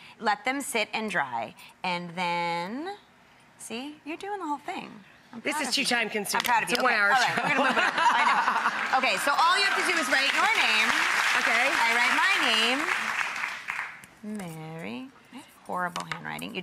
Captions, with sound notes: Let them sit and dry, and then, see you're doing the whole thing. This is too time-consuming. It's a one-hour show. (laughs) (audience claps) Okay so all you have to do is write your name. Okay. And write my name. Mary, horrible handwriting.